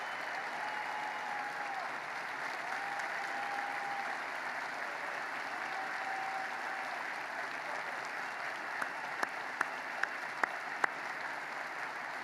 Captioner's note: applause